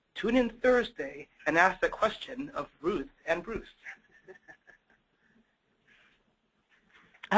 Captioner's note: laughs